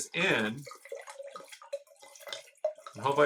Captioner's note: wine burbling